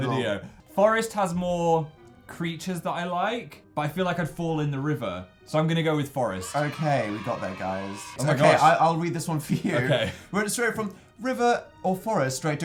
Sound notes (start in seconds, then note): 6.3 children cheering sound effect